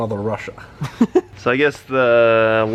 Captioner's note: laughs